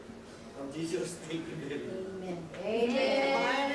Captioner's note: man speaks Filipino